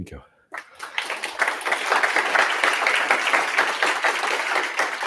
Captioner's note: applause